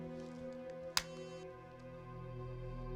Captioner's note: phone clicks shut